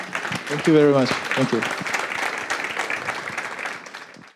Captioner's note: applause